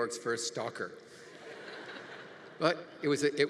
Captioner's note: congregation laughing